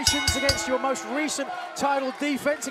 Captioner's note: bell ringing